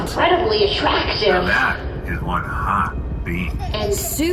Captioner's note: Horsehat laughs